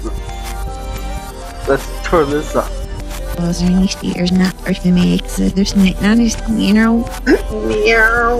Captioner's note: reverse speech